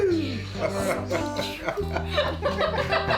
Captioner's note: laughter